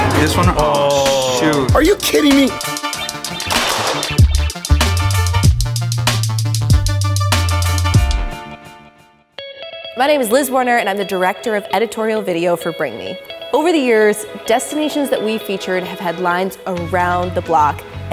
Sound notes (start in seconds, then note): 3.5 clapping